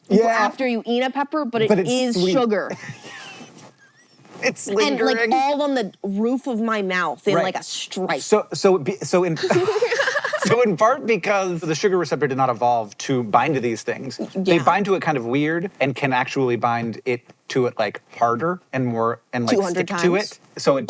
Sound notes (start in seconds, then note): 2.8 HANK wheeze-laughs; 9.4 BOTH laugh